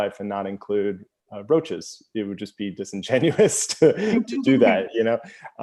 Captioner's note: laughter